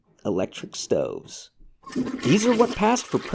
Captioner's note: low-flow toilet flushes